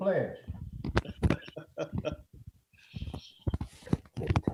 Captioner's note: laughing